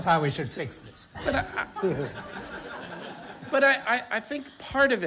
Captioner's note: laughter